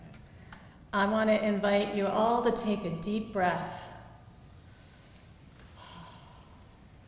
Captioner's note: exhales